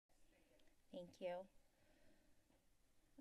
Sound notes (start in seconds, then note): 0.1 silence